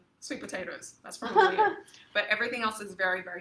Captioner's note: laughs